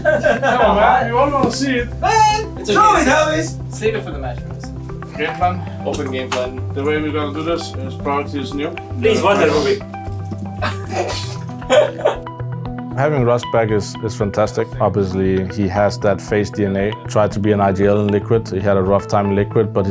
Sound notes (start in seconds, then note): 10.4 all laughing